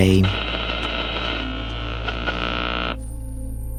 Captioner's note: interference